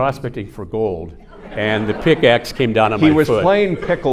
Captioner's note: audience laughing